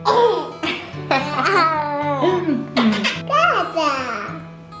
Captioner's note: laughing